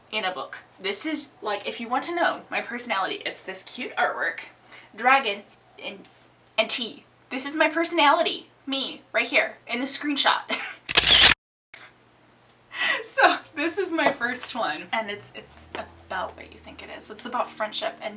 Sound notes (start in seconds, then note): 10.9 camera shutter